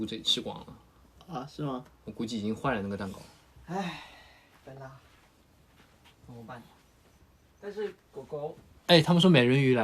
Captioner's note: exasperated sigh